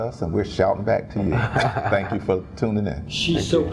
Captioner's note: laugh